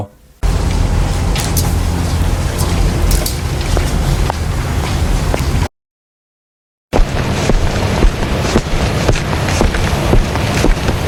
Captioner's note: sound of city